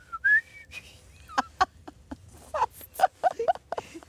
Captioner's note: she laughs